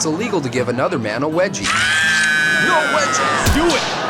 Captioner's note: high pitched screaming; gunfire